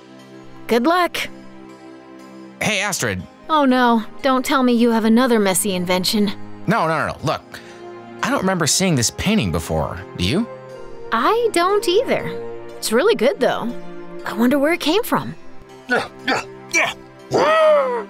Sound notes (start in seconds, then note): 15.9 grunting